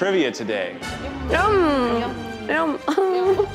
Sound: laughs

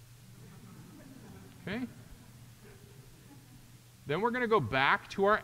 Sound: audience chuckling

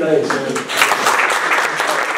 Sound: clapping

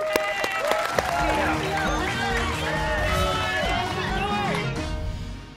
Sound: cheers and applause

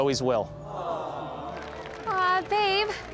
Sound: crowd

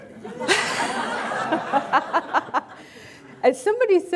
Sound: everyone laughing

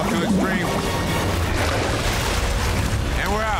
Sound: dramatic music; water splashing

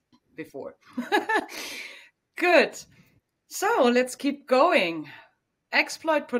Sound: laughs

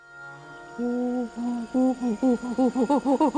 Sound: monkey noises

